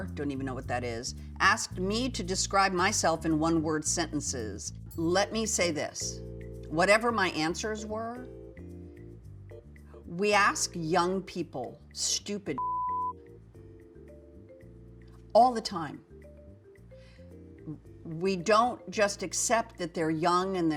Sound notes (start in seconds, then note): 12.5 beep